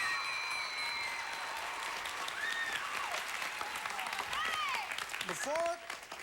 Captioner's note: audience applauding